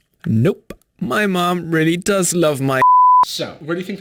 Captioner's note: beep